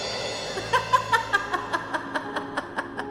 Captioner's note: laughing; soft orchestral music